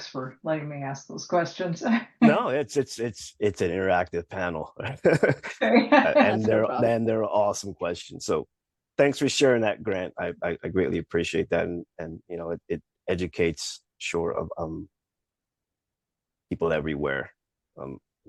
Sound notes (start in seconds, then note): 4.6 laughs